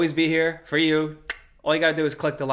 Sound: clicks tongue

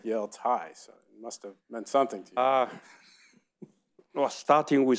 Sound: laughs

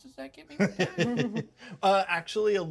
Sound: laughs

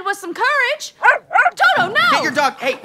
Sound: barking

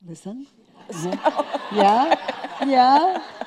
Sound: laughing

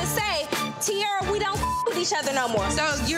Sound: beep

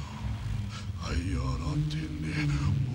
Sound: non-english speech

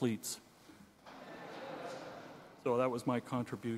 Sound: audience laughing

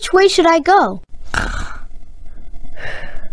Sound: snoring noises

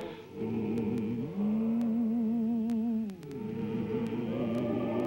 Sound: humming

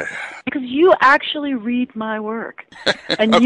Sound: laughs

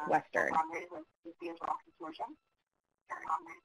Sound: echoing

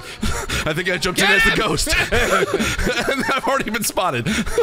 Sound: laughs

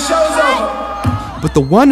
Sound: audience Booing

